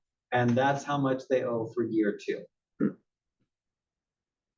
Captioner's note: cough